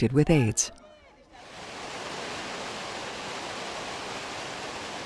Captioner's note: water gushing